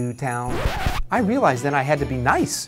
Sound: record skips

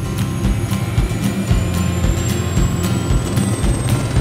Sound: helicopter engine whirring

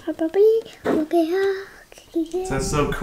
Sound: vocalizing

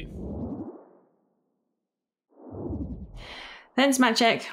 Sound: whoosh

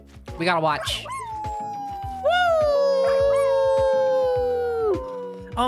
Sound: howling; Randy howling

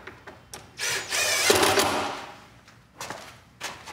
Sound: drill whirring

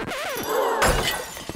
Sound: dishes crash; gasping

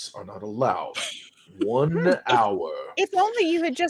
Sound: laughing

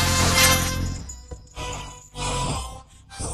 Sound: gasps

